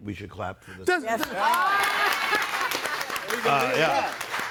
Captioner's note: audience applauding